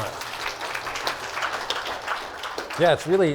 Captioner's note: applause